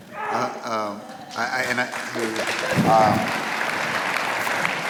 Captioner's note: audience applauds